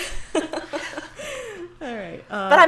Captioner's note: laughs